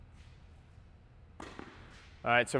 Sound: racquet hitting ball

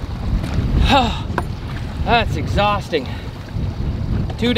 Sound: gasps

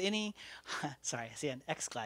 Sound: chuckles

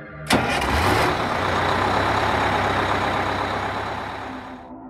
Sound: bus engine starting

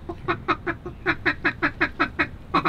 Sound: duck calling

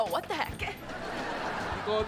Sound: laughing

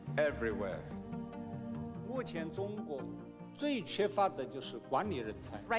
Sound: speaking chinese

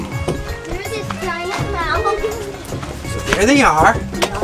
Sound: kids talking and laughing

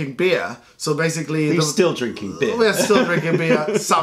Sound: laughter

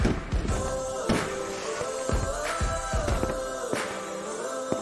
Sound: fireworks exploding

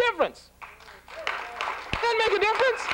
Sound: applause

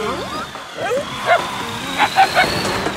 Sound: barking

